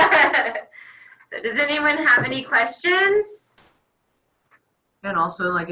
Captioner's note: laughs